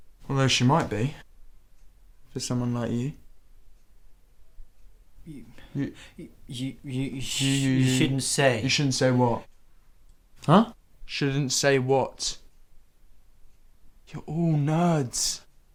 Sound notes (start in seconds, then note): 6.4 stammering